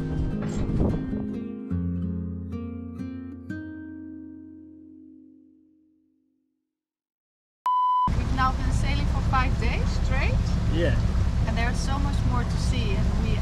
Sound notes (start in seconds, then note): 7.6 tone beeps